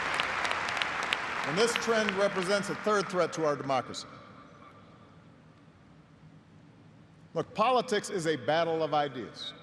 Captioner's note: applause